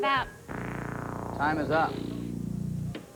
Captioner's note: buzzer